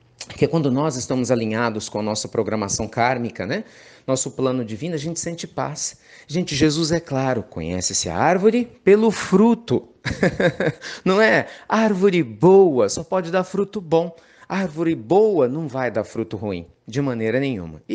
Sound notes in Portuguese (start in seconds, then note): 10.0 Risos